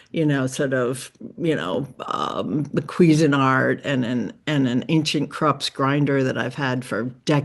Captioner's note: none